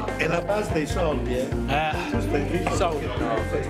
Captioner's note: speaking Italian